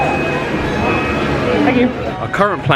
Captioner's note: scanner beeps